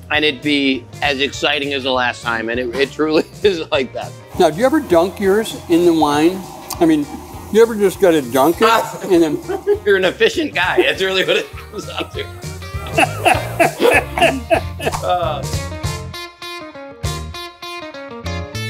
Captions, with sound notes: and it be as exciting as the last time and it truly is like that. - Now, you ever dunk yours in the wine? I mean, you ever just try to dunk it and? - You're an efficient guy. That's really what it is. (both laughing) (upbeat bluesy music)